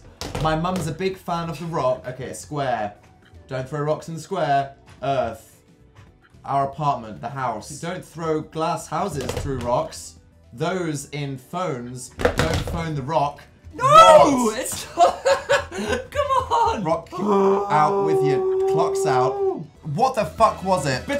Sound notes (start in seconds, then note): 14.8 both giggling adorably; 17.1 groaning in frustration